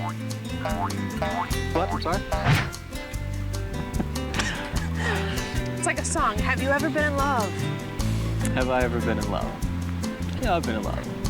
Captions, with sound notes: - What, I'm sorry? (laughs) - It's like a song, have you ever been in love? - Have I ever been in love? Yeah, I've been in love.